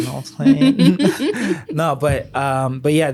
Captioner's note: laughs